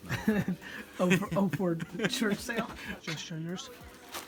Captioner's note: laughs